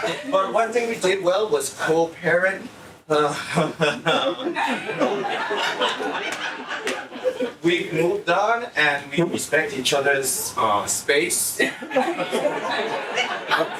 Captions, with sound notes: But one thing we did well was co-parent. (laughing) We moved on and we respect each other's space.